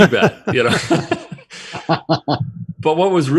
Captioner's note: laughter